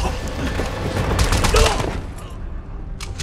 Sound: grunting

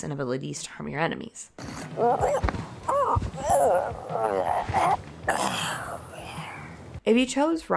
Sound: dying wail

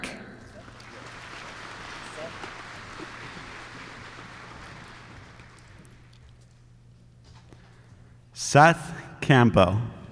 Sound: applause

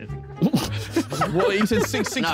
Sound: all laughing

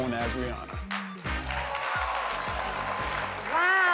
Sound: audience ahhhs and applauds

